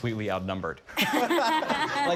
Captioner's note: laughs